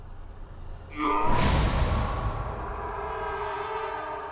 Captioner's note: evil scream